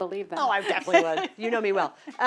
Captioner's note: laugh